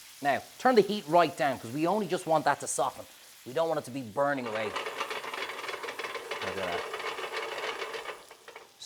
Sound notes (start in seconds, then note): 4.9 pan sizzles and rattles